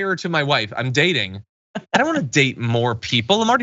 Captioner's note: laugh